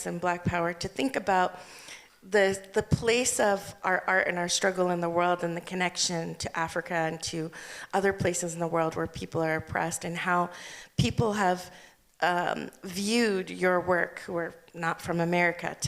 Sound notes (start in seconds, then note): none